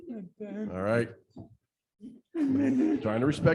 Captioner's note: laughter